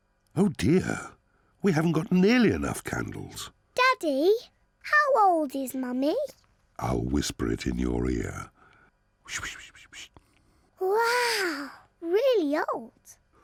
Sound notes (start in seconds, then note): 9.1 whispers